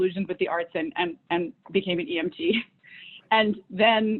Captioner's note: laughs